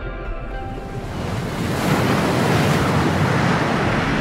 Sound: water splashing

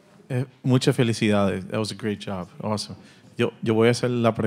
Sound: speaking Spanish; audience member continues in Spanish

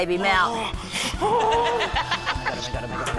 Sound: groans loudly

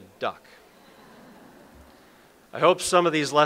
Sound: audience laughs

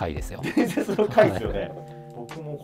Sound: laughing

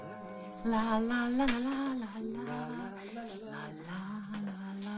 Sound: humming

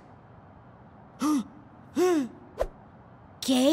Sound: gasps

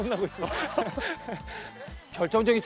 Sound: laughing

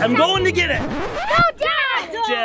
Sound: record screeching

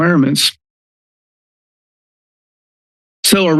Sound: silence

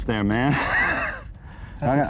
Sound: laughter

